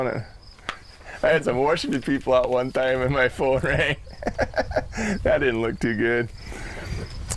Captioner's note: laugh